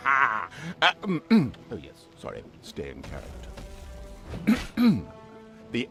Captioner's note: cough